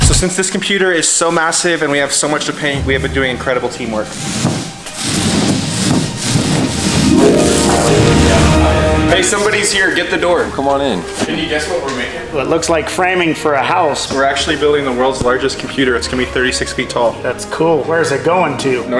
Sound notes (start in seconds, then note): 3.5 brushes roll stickily on wood; 6.3 hopeful music